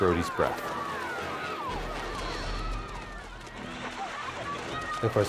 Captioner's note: water splashing on screen